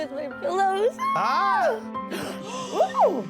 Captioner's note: squeals; gasps